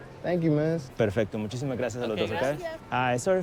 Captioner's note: speaking Spanish